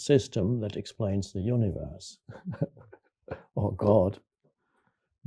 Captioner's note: chuckles